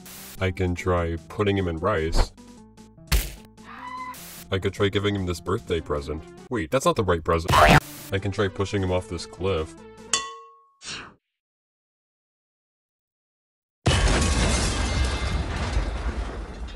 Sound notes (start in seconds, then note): 7.4 boing; 10.0 metal sound